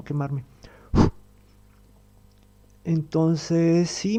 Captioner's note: he blows